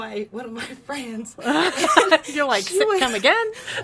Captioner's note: laughs